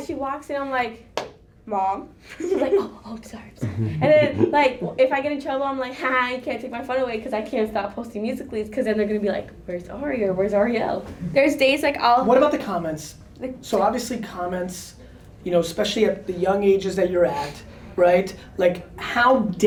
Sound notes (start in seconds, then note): 3.1 whispers